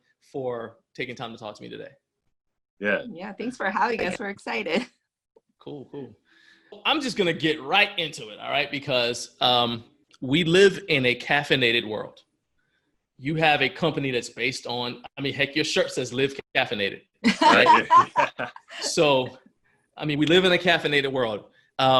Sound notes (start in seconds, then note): 17.3 laughing